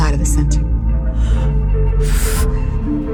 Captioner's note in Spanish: Exhala fuertemente